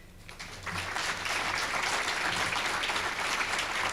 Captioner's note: audience clapping